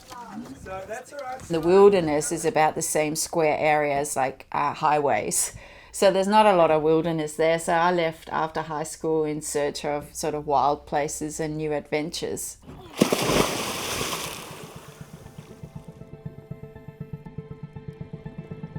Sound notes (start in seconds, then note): 12.9 water crashing; 15.1 light music